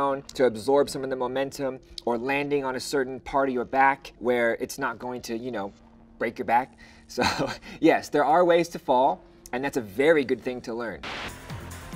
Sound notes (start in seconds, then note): 7.1 chuckles; 11.0 retro music